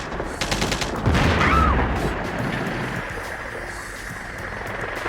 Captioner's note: explosion booming